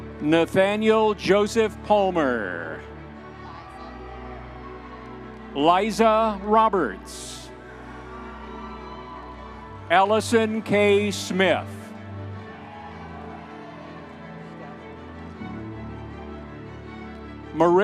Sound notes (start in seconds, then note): 0.0 audience members cheering; 0.0 dramatic orchestral music; 3.2 audience members cheering; 8.2 audience members cheering; 12.6 audience members cheering; 14.6 dramatic orchestral music continues